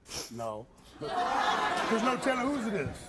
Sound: audience laughing

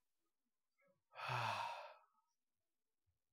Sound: sighs

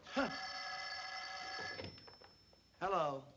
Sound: phone ringing

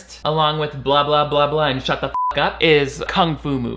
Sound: beep

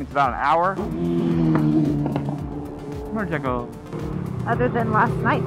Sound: loud Motorcycle Engine Noise

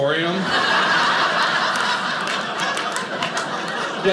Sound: audience laughing

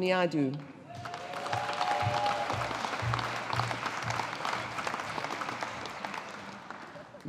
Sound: audience applauding

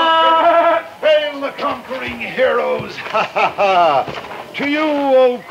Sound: laughs

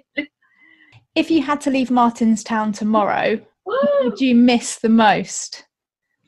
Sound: gasp

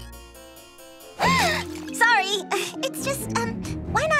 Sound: gasping

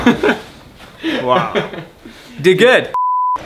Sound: laughs

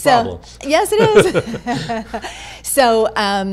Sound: laughing

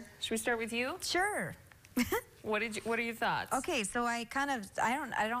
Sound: laughter

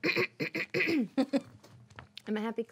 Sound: clears throat

